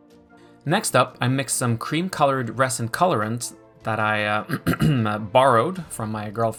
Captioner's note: clearing throat